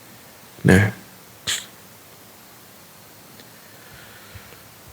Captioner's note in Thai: เสียงสูดหายใจ